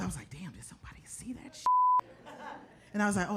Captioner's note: beep